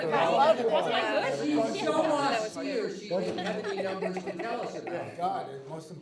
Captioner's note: people continue chattering